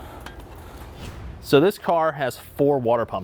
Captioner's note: air whooshes